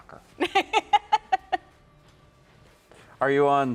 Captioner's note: laughing